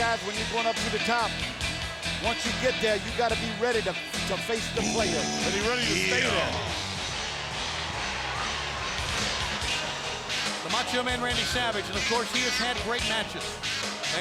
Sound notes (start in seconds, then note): 7.1 crowd cheering